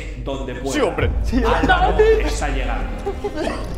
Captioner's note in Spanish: gritan